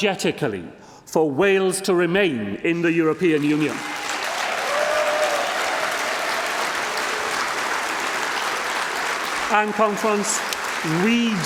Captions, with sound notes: to stand up for Wales by campaign campaigning wholeheartedly, vigorously and unapologetically for Wales to remain in the European Union. (Applause) (cheering and applause)